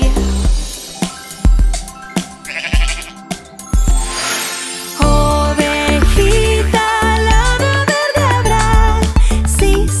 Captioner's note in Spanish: Sonido de oveja